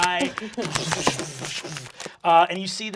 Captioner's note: ice-cream splattering